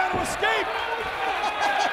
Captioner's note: laugh